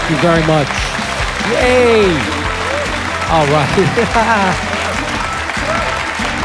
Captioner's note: laughs